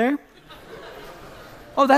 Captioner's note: laughter